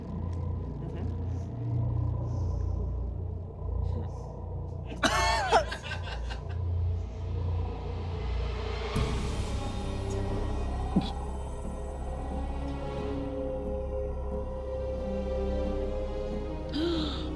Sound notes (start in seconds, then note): 4.9 group laughing; 5.5 dramatic music continues